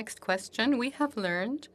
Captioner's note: speaking French